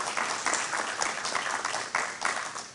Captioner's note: applause